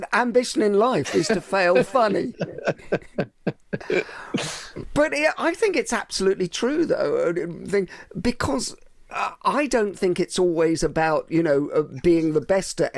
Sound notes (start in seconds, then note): 2.7 laughing